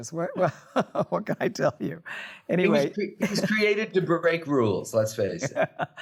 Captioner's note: laughs